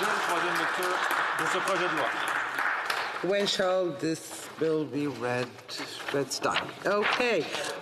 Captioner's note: some Applause